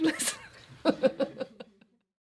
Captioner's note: laughs